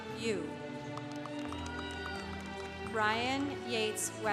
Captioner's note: congregation applauding